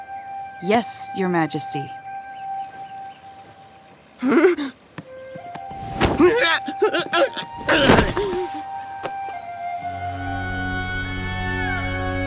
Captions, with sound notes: Yes, Your Majesty. [whimpering] [groaning]